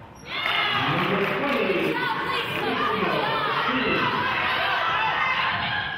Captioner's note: cheering and clapping; murmurs